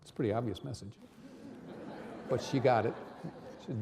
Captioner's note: audience laughing